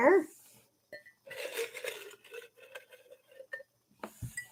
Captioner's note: papers rustle